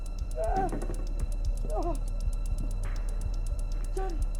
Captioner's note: bat rattling